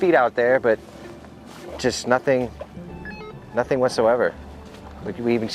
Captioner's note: radio beeps